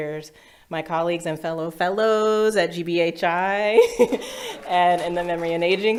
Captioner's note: laughs